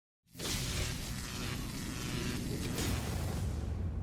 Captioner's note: sign buzzing